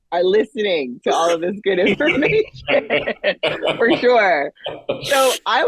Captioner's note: laughing